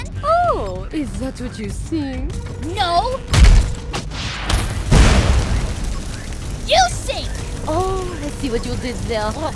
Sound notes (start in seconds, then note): 3.2 snap; 4.3 pop; 4.4 crackle